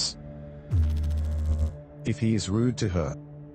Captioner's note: electrical noise